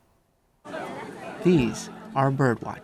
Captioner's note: crowd chattering